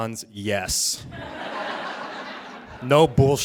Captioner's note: audience laughing